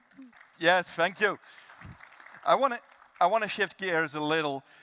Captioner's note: applause